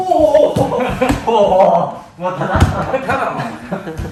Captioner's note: laughter